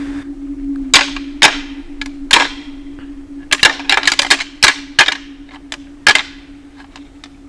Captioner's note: sound of rattling